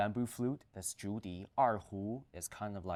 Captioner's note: speaks in foreign language